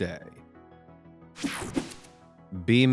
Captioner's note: screen buzzing